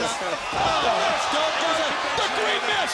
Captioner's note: everyone shouting